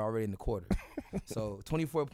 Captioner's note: laughs